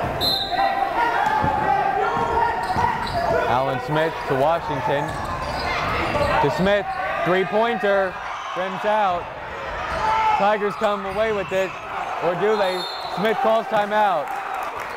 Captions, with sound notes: (whistle blowing) Alan Smith to Washington, to Smith, three pointer, rims out. Tigers come away with it or do they, Smith calls time out